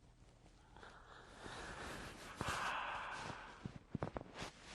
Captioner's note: sighs